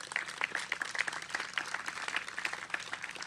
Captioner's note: applause